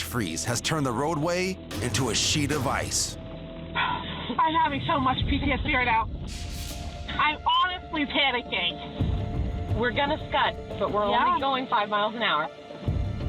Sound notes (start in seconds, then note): 3.3 woman 1 sighs